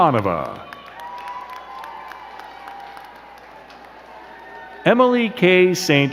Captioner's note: crowd cheering and clapping